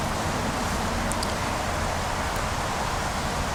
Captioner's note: wind Blowing